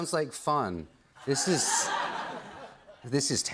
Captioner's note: laughter